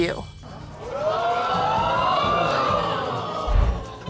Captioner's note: audience exclaiming